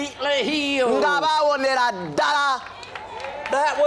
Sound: applause

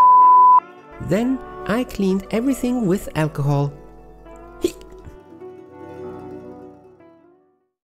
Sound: hic

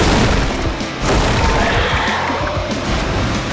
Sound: roaring

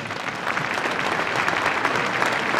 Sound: applause

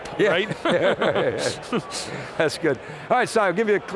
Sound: laughing

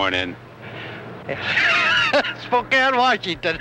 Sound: laughing

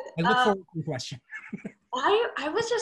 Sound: chuckling

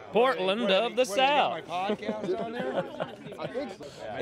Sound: laughter

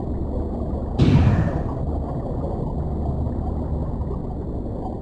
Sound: metal slamming

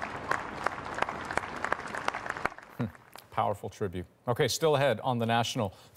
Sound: applause

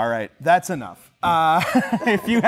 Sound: laughter

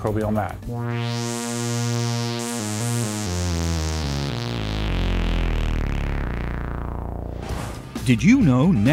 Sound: sound Effects

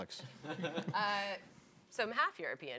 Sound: people laughing

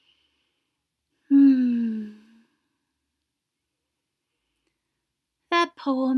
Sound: sighs

